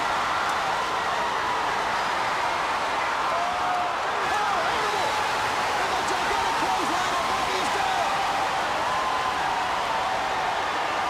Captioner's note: crowd cheering